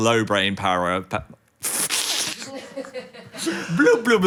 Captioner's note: chuckling; producer laughing